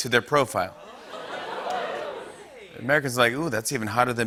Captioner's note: laughter